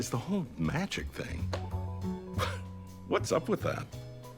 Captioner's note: chuckles